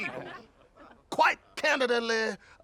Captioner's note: laughing